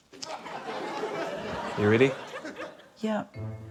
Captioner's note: laughter